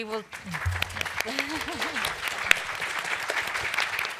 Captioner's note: applause